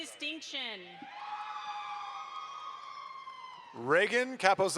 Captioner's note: audience applauds